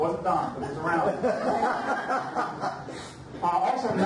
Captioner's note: audience laughs